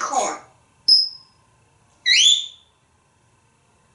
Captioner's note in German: tweet